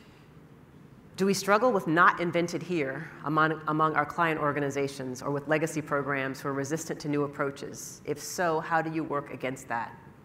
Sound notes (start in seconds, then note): none